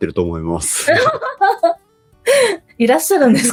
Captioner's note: laughs